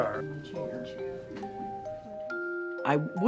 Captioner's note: people chattering